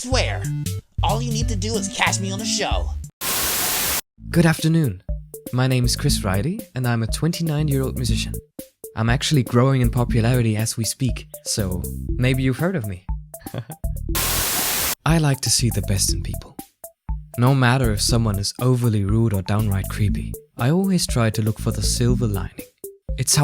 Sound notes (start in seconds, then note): 3.2 Static; 14.1 Static